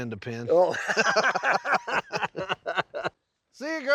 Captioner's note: both laughing